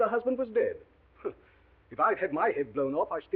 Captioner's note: scoffs